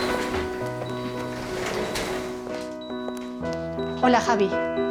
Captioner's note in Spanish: Suena pitido intermitente